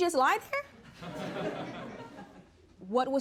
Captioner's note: audience laughs